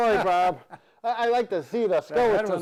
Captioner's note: laughing